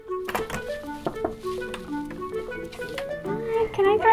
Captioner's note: knocking